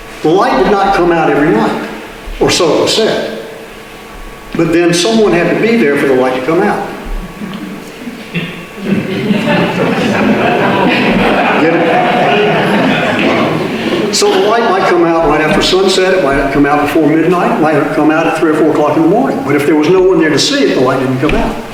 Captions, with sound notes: The light did not come out every night, or so it was said. But then someone had to be there for the light to come out. [Audience laughter] So the light might come out right after sunset, might come out before midnight, might come out three or four o'clock in the morning. But if there was no one there to see it, the light didn't come out.